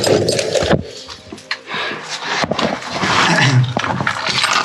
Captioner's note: equipment jangling